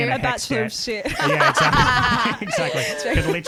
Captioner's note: laughing together